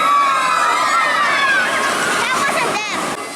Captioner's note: screaming